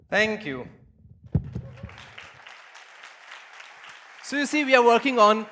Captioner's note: applause